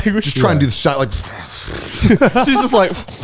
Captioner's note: exhales